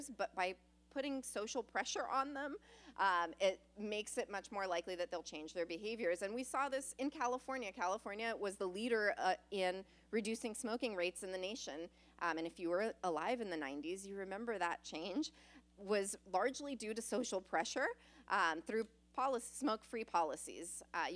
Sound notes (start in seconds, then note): none